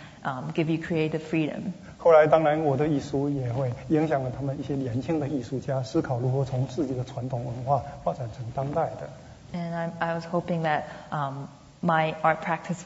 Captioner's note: speaking Mandarin